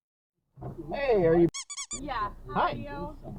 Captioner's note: squeaky toy